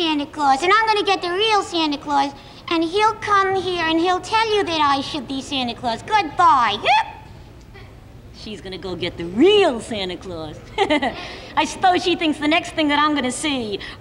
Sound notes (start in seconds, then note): 6.8 Lamb Chop yelps; 10.6 Charlie laughs